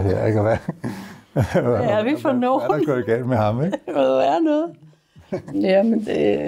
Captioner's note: chuckles